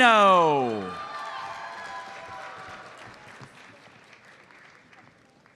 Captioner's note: audience applauds